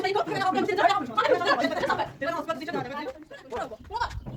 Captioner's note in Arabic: ضحك